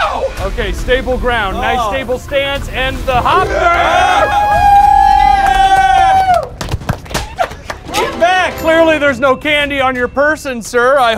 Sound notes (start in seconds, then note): 3.3 cheering